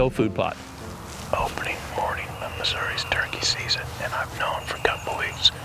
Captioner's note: whispering